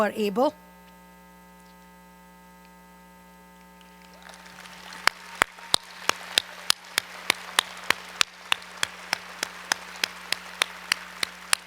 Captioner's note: applause